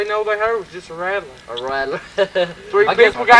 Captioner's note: laughs